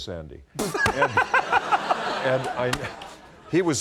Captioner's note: laughter